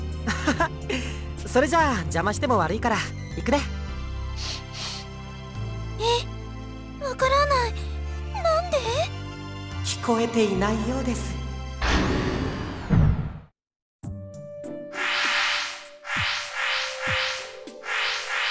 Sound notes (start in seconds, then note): 0.6 laugh; 4.4 sniff